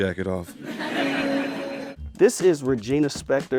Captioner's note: audience laughs